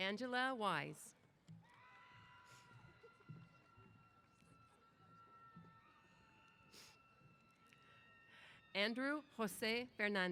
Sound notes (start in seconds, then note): 1.6 cheers